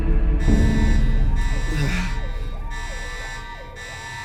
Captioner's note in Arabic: إنذارات مدوية; يئن